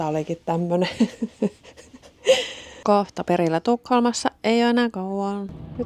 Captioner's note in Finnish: naurua